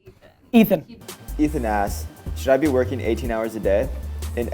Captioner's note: voiceover